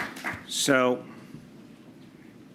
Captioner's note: applause